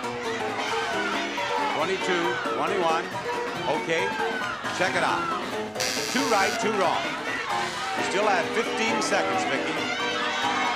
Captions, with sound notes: 22. 21. Okay. Check it out. (buzzer) Two right, two wrong. We still have 15 seconds, Vicky.